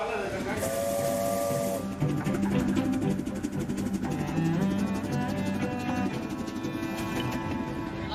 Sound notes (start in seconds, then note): 0.0 train engine revving; 0.8 soft music